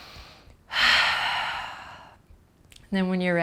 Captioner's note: sighing breath